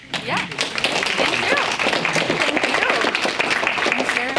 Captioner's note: audience applauds